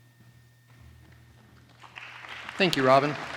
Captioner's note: applause